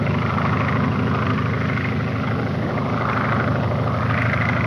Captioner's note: plane engine roars